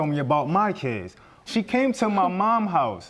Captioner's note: scoffs